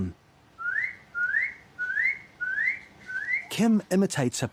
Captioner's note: whistles